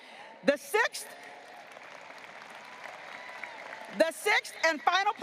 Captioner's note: audience applauding